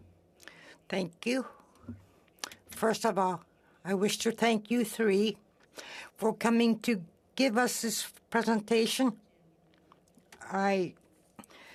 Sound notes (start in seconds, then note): 5.4 speaking in French